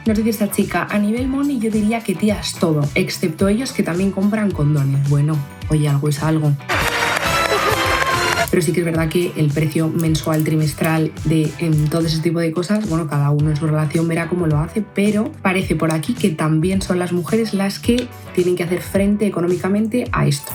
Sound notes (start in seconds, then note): 6.7 applause